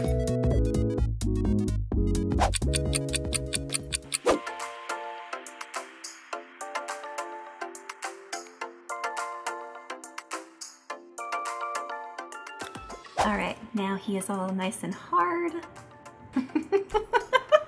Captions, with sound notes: (clock ticking) (uplifting music) Alright, now he is all nice and hard. (laughs)